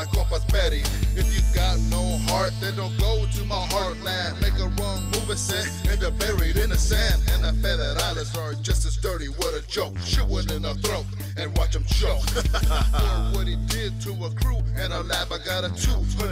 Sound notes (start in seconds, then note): 12.2 laughs